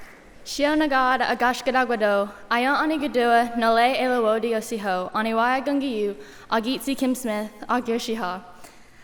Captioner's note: speaking native language